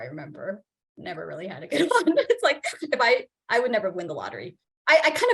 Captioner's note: laughs